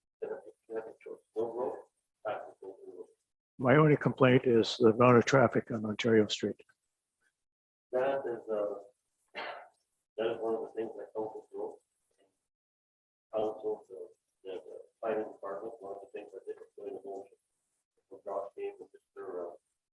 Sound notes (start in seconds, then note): 9.4 coughs